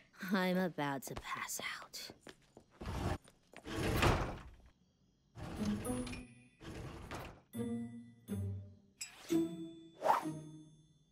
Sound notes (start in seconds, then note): 5.4 door opens quietly